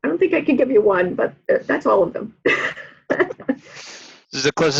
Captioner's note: laughs